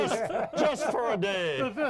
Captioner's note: all laughing